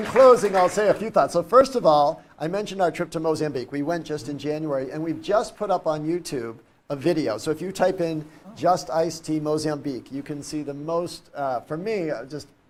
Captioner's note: applause